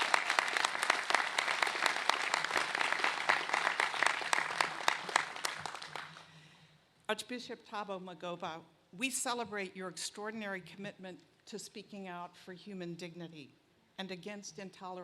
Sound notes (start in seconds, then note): 0.0 applause